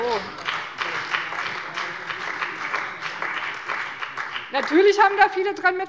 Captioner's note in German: Beifall bei dem BÜNDNIS 90/DIE GRÜNEN und der CDU